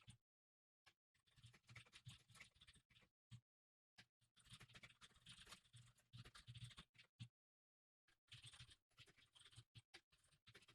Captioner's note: typing sounds